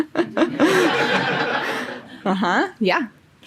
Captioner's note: audience laughing